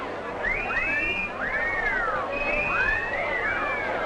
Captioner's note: group chattering; group whistling